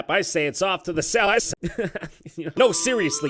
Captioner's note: tiny jontron giggle